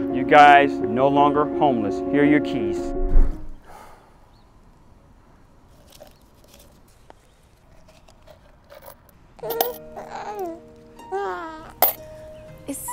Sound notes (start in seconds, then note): 5.7 paper rustling; 9.4 baby cooing